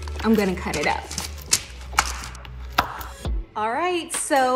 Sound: knife clacks

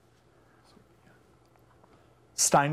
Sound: whispering

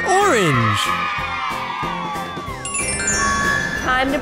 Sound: cheers

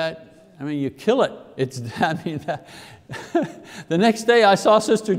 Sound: laughs

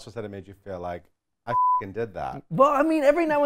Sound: beep

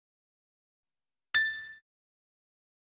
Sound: dings continuing

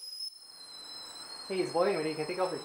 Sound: high pitch eeeeee

